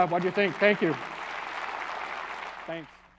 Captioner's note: applause